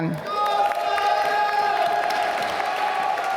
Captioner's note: applause